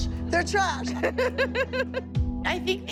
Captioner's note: laughing